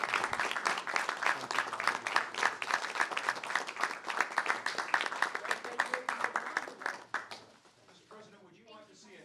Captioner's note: applause